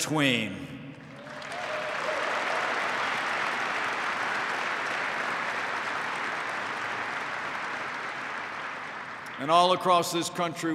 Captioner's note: applause